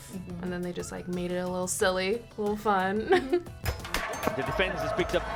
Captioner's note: laughs